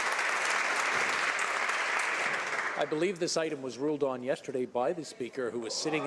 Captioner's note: applause